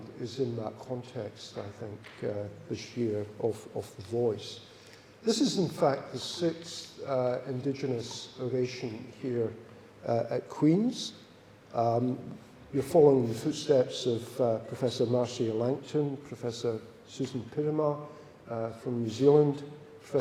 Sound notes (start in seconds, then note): none